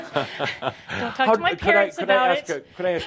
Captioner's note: they chuckle